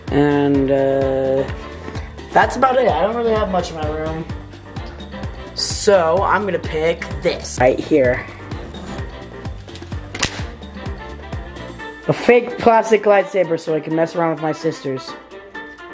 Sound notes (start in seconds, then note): none